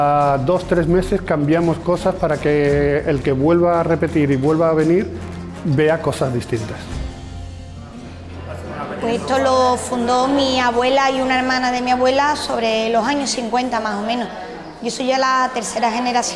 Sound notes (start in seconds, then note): 8.4 speaking spanish